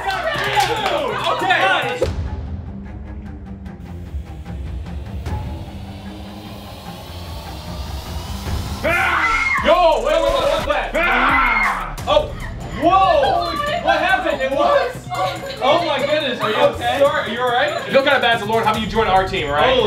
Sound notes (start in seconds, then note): 2.1 suspenseful music; 8.7 Mannequin screams; 8.8 screams